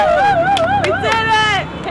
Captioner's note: crowd cheering